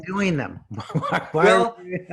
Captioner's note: laughs